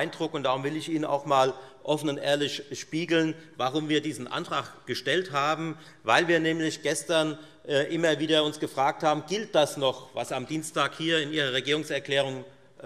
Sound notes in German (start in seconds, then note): none